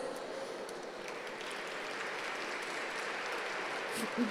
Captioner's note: applause